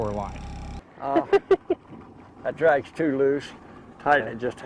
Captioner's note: laughing